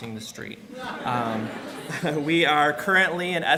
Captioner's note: laughing